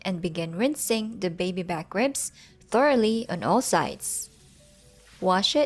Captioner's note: water running